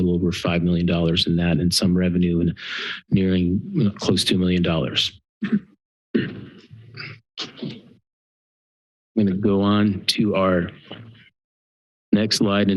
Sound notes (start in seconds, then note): 5.4 coughing sound; 7.8 pause